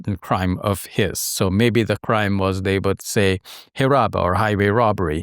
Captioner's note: speaks in Arabic